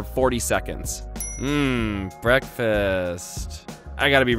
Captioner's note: dings